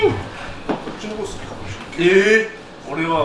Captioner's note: laughs